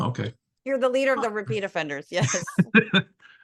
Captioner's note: laugh